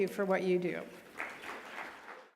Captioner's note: audience applauding